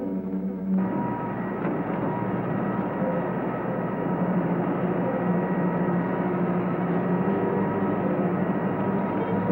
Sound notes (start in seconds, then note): 0.8 machinery rumbling